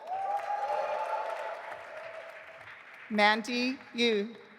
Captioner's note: audience applauding